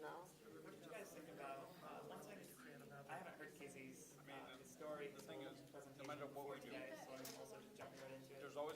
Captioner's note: students chattering